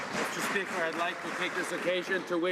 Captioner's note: some Applause